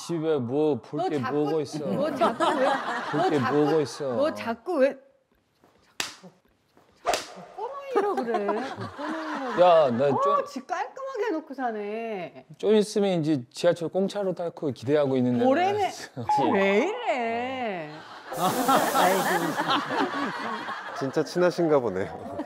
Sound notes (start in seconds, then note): 5.4 smacking